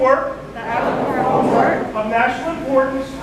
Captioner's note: crowd